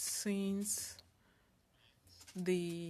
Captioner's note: speaking French